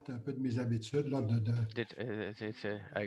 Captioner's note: foreign language